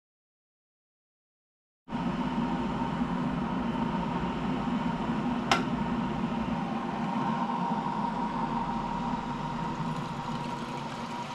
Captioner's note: kettle sounds